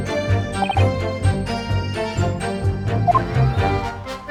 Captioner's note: cough